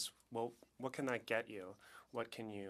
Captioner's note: speaking French